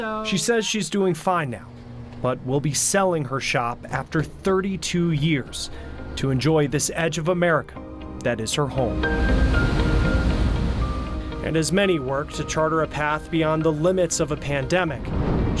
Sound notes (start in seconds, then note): 8.6 waves crashing; 9.3 pensive music